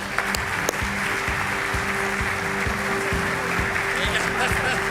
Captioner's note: audience applauding